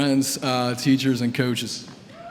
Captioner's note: applause